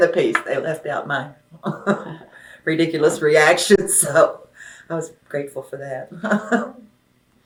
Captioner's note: laughs